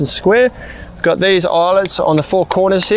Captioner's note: metal clinging